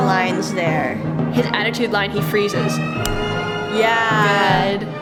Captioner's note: snaps to illustrate